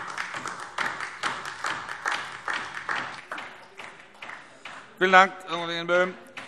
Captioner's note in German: Beifall DIE LINKE